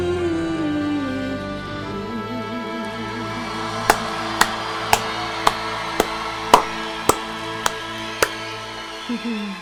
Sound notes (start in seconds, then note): 3.6 audience roars; 3.8 claps